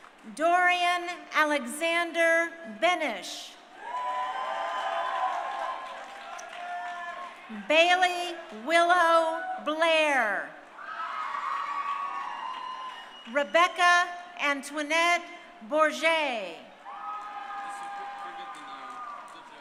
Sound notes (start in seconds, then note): 0.0 crowd cheering; 3.7 crowd cheering; 16.7 crowd cheering